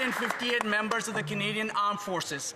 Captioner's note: some Applause